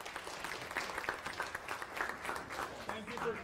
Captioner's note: applause